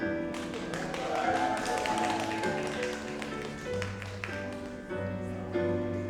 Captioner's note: audience cheers and applauds